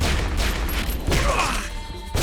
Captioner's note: grunts